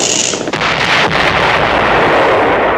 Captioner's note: explosion